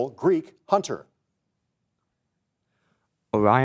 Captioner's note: whispers